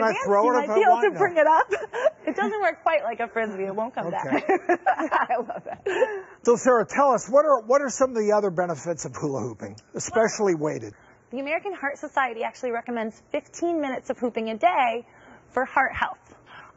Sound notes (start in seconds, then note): 1.1 laughs; 4.2 chuckles